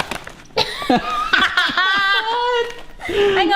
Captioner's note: laughing